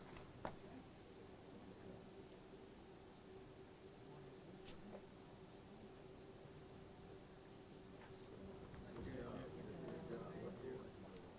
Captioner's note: shuffling and murmuring and laughing